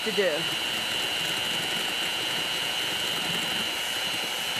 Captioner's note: mixer whirring